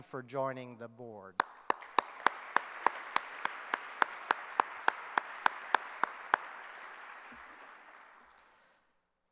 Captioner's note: clapping